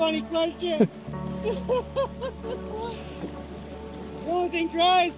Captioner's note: laughter